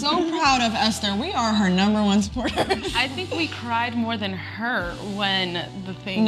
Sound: laugh

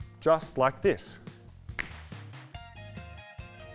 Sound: clicks fingers

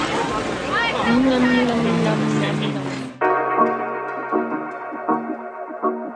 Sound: groaning in satisfaction

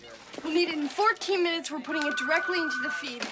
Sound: telephone rings

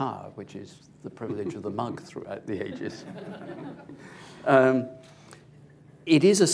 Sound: laughter

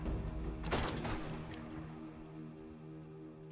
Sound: gun firing

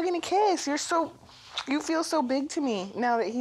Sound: kisses

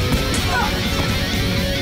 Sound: grunt

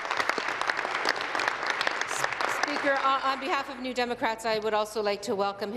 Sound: applause

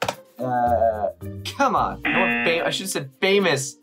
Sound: buzzer rings

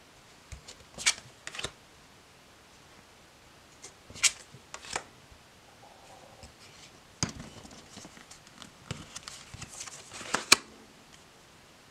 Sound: cards flipping

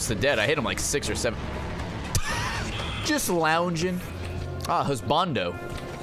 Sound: laughs

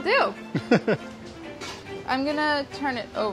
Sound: laughs

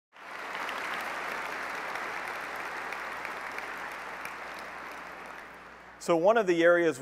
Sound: applause

